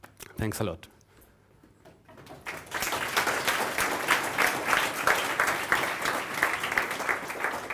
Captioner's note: applause